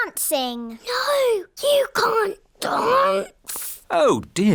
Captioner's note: whispers